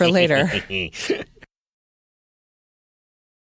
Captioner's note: sinister laughter